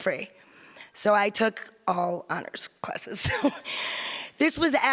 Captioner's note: giggles